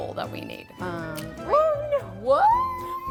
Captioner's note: egg cracking